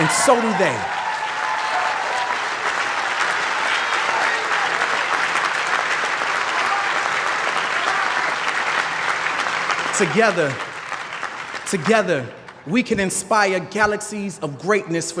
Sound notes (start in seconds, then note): 3.1 applause